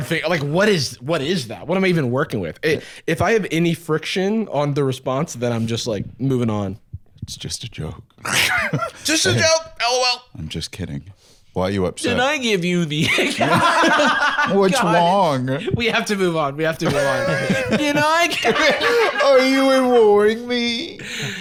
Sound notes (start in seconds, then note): 8.2 laughs; 13.0 laughs; 16.8 laughs